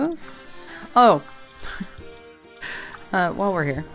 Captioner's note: small laugh